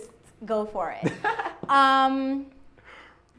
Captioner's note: laughs